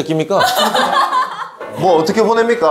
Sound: hahaha

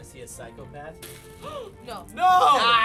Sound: gasps

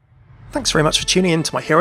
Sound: voiceover

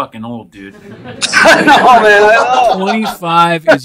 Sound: laughing

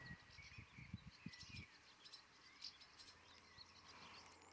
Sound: birds chirping

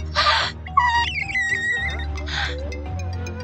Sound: laughing; window cleaning sounds

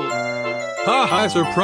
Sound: laughing

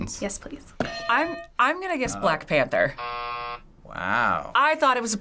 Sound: buzzer

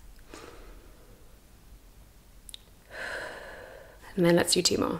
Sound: breathes

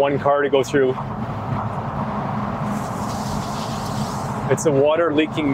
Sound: water pouring

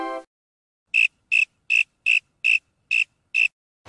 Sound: crickets

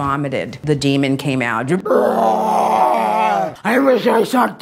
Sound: groans

